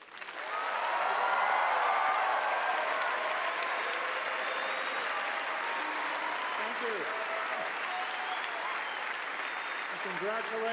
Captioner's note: cheers and applause